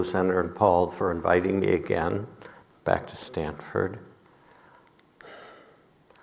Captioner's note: none